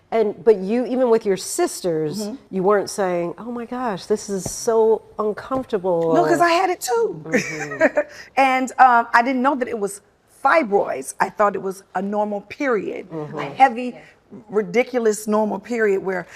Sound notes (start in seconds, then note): 7.3 laughing